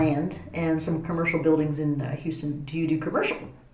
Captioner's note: whispers